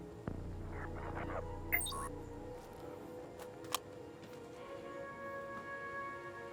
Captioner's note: phone beeps; gentle music